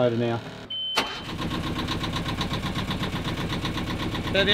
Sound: motor turning

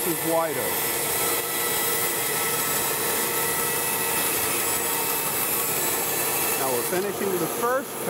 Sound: bandsaw whirring

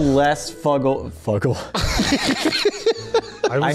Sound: laughs

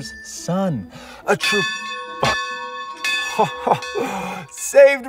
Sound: bells rings

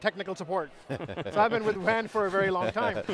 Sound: laughing

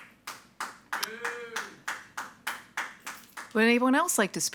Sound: audience applauding

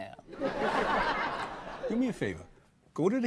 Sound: audience laughs

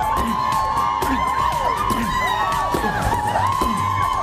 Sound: cheers and applause

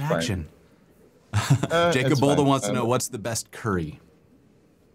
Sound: laughter

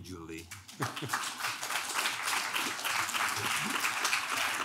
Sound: clapping

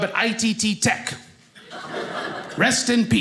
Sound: audience laughing

